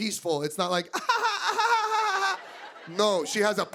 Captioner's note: laughing